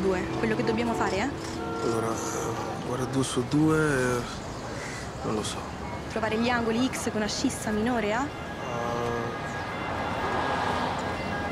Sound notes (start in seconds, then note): 9.2 siren